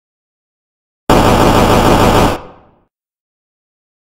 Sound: sound of game shots

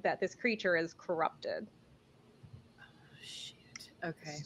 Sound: quietly

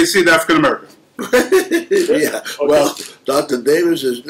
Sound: laughter

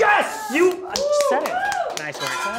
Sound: cheering

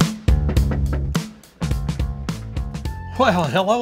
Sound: knocks

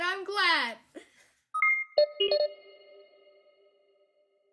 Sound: beeping

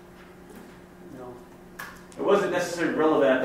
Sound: voiceover

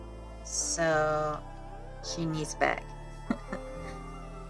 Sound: chuckles

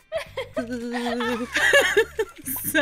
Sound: laughter

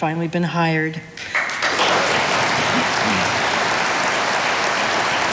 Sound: audience applauding

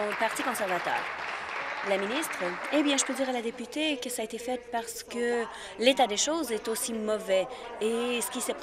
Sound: applause

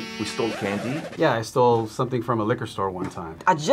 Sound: record scratch

